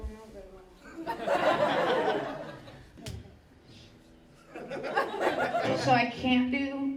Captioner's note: crowd laughs